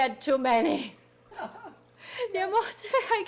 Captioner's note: people laughing